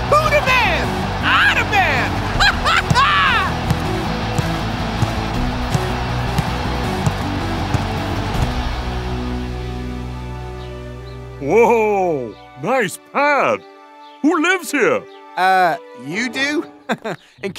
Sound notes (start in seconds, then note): 2.0 laughs; 3.7 crowd cheering; 16.7 chuckles